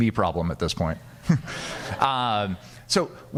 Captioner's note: audience laughing